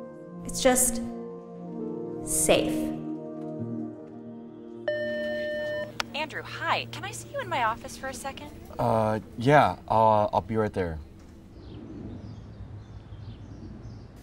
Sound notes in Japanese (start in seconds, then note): 4.9 電話